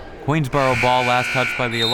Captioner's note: buzzer; whistle